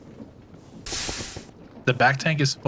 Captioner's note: steam hissing